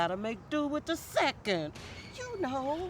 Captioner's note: door creaks